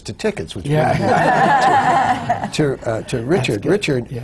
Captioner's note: laughter